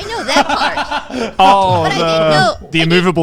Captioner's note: everyone laughing